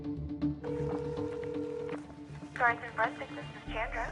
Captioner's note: tense music; line ringing